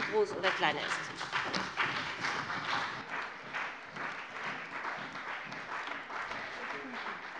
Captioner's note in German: Beifall bei dem BÜNDNIS 90/DIE GRÜNEN und der CDU